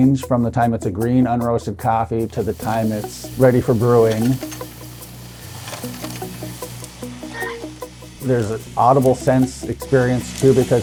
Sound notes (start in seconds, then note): 4.8 upbeat music continues; 5.8 coffee beans thudding